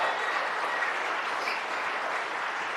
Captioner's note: applause